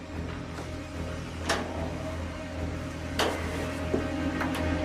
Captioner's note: opening door